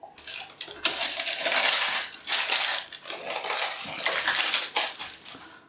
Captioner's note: paper rustlin